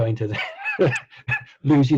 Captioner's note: laughing